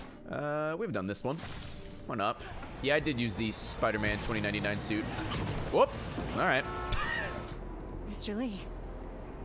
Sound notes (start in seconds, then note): 7.3 laughs